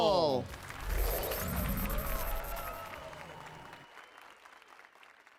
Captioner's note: applause and cheers